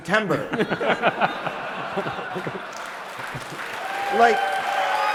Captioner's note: laughter; applause